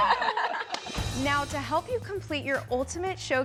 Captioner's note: giggles